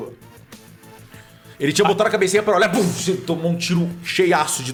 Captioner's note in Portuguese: Pow